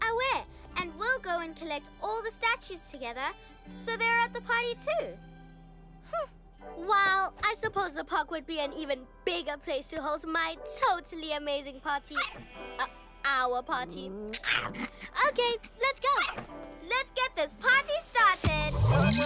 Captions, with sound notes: Aweh! And we'll go and collect all the statues together so they're at the party too. Well, I suppose the park would be an even bigger place to host my totally amazing party! - (Yaps) - Uh... our party! - OK, let's go! - Let's get this party started!